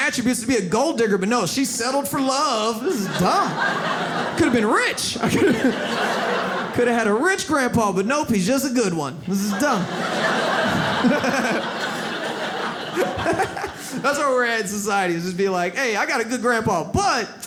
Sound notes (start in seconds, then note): 9.3 audience laughs